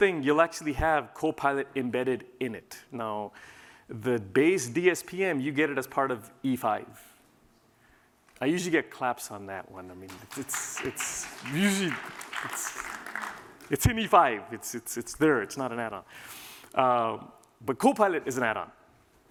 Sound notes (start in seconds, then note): 10.0 applause